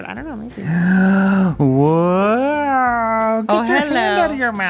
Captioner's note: moans